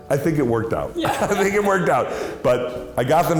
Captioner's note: laughs